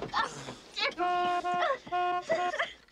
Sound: honking

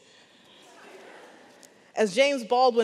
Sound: audience laughs

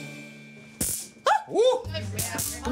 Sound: laughing; taser buzzing

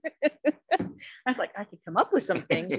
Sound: giggling

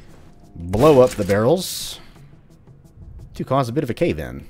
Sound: boom

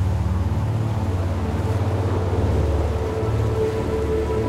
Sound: waves crashing

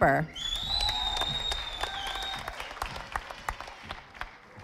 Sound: audience applauding

